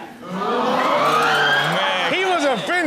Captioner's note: students exclaiming; audience laughing